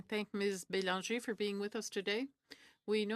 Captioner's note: speaking in French